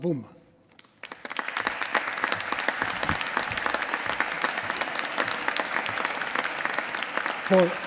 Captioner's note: applause